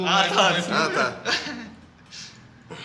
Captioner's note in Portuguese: Risada